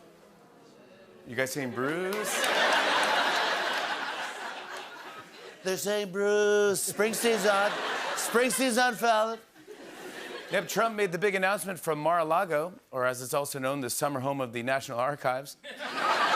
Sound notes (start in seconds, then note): 0.1 audience groans; 5.2 As Trump; 10.2 normal voice